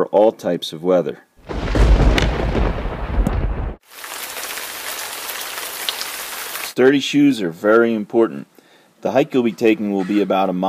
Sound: sound of rain falling

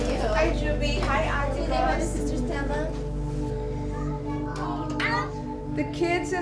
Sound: ambient noise, greetings

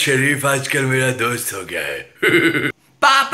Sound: Zardari Laughs

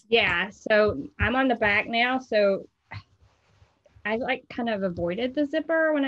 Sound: none

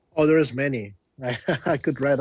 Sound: chuckling

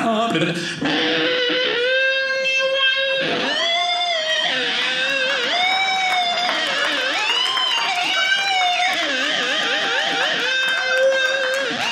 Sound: imitating rock music

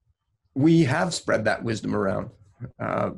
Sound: laughs

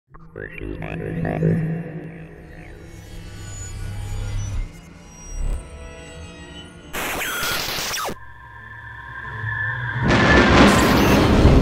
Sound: sound Effects

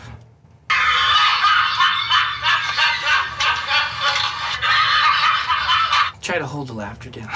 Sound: laughter

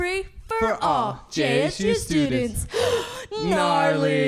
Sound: gasp

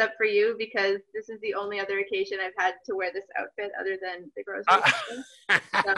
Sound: laughing

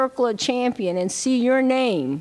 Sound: none

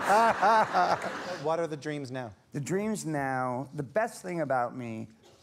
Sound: laughter

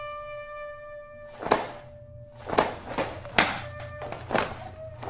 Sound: clothes slapping

